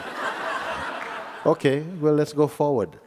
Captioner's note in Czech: Posluchači se smějí